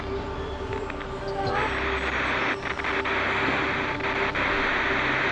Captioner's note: static continues hissing